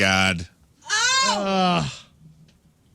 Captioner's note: screaming